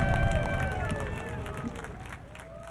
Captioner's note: crowd applauding